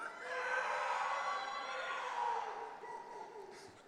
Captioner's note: audience cheering